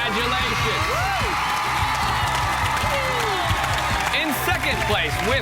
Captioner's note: cheers and applause